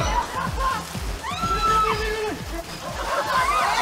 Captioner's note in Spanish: Gritos